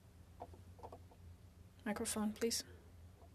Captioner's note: speaking French